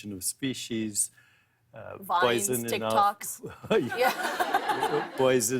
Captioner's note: laughter